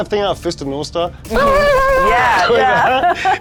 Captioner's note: grunting